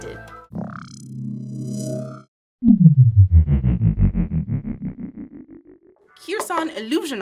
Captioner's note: ominous hum